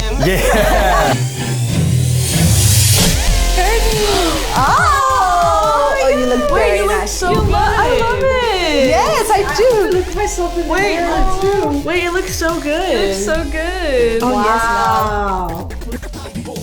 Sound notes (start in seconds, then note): 0.0 everyone laughs; 0.2 music crescendos; 3.9 family gasps in excitement; 10.2 overlapping chatter